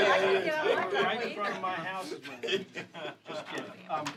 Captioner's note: laughter